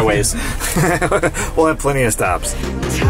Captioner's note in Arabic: يضحك